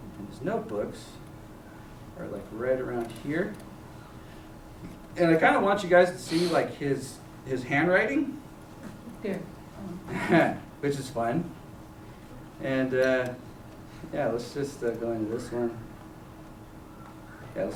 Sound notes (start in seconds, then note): 11.1 chuckles